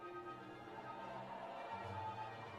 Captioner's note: cheers and applause